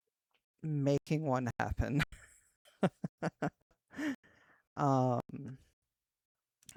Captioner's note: awkward laugh